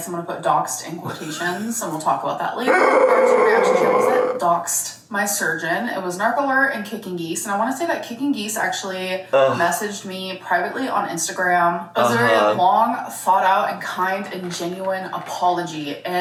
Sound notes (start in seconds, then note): 2.6 groaning